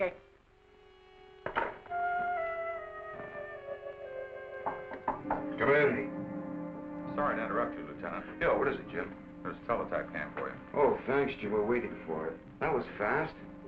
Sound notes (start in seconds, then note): 1.3 ominous music; 4.6 door knocking